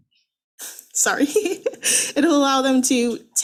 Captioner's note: giggles